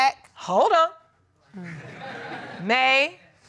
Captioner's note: crowd laughs